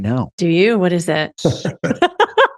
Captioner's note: laughs